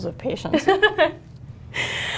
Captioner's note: laughter